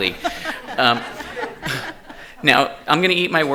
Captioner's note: attendees laughing